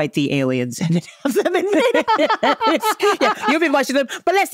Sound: laughing

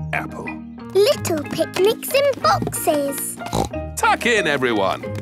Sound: snorts

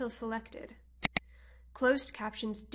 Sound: mouse click

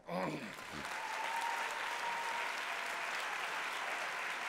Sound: applause

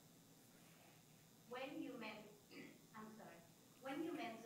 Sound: clears throat

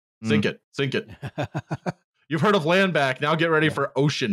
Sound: laughs

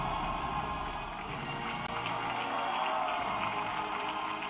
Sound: cheering and applause

